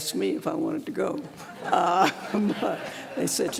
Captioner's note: laughter